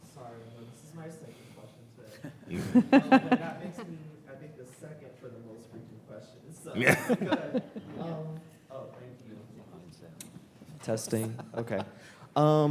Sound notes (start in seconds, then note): 6.8 panelists laugh